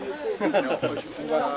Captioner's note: laugh